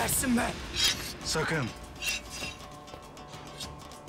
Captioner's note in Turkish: Kılıç çekme sesi